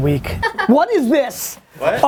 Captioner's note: laughter